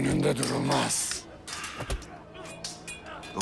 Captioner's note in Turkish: Kılıç sesleri